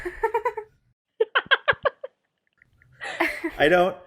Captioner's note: laugh, confused; laughs